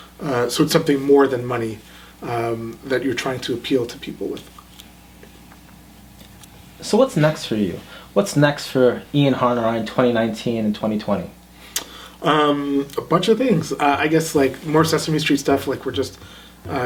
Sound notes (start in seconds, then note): none